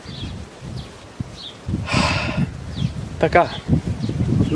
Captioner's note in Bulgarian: Въздишка